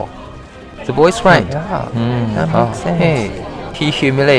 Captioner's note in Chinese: 群众嘀咕